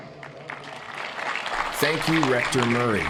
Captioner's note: applauding